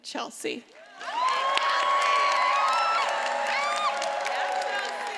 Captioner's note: attendees applauding and cheering